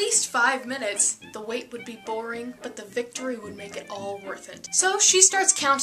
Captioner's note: quietly